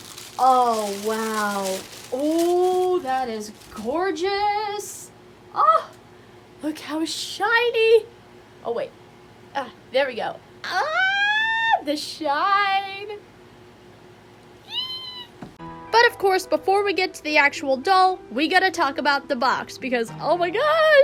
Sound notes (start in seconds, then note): 10.6 fangirl squeal